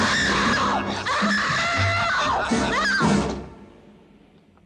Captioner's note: screaming